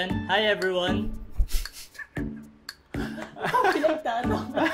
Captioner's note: chuckles